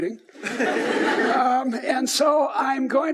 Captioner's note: audience laughs